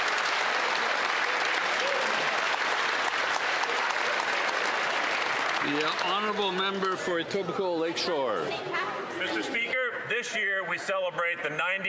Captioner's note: some Applause